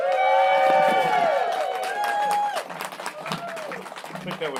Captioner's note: applause